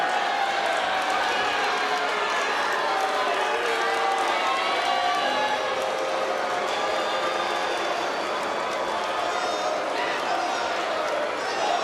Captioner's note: crowd boos